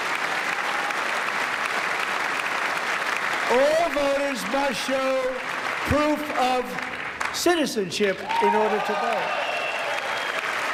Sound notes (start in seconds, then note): 0.7 applause